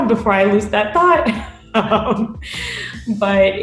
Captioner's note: both laughing